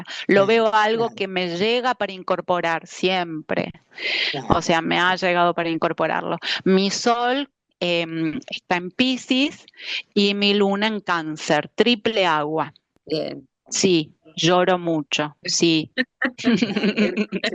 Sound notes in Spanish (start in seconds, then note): 16.4 risas